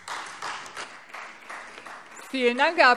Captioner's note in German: Beifall Freie Demokraten